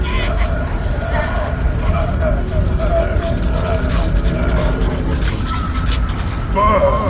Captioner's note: voices echo; Wilson screams